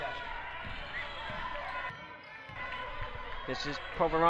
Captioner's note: crowd talking and yelling